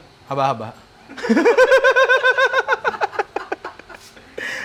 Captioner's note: laughing